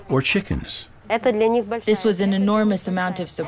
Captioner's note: speaking in foreign language